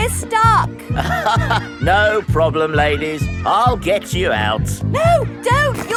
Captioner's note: chuckles